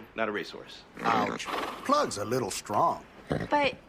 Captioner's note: snorts